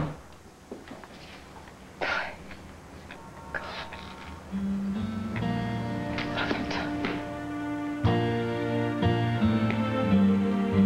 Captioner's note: door slams